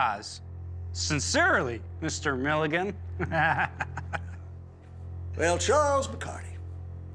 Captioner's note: laughs